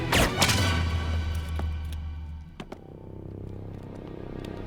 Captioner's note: gun fires; suspenseful music